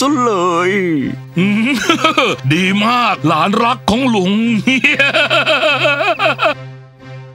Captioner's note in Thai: หัวเราะ